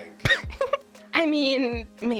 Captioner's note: woman laughs